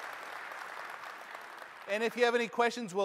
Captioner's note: applause